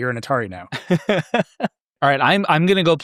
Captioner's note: laughing